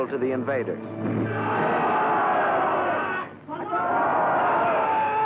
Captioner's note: shouting